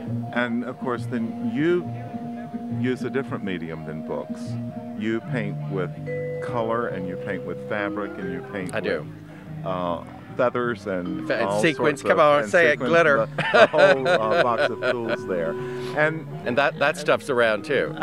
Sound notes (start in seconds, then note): 13.2 laughs